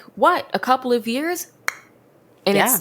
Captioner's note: snaps fingers